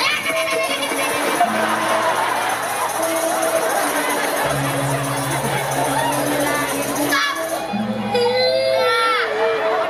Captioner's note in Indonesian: Tepuk tangan